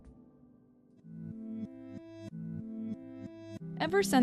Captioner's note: audio reverses